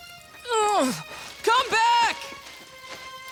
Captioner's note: grunting